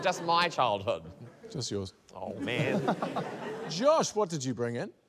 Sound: laughter

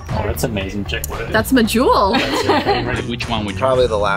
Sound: laughing

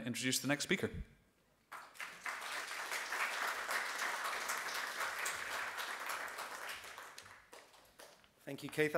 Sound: audience claps

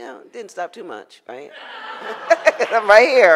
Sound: audience laughs

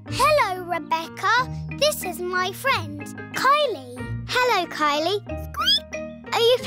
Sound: squeaks

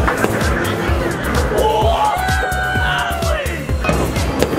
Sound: cheering

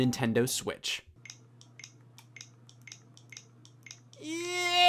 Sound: button clicks

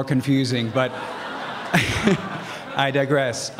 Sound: laughs

